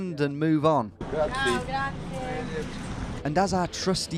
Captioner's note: speaking in a foreign language